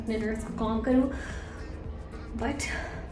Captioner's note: takes a deep breath